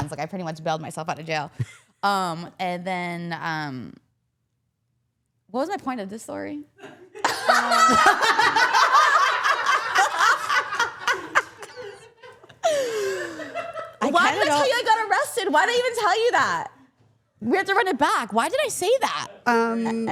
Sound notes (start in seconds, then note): 6.8 all laughing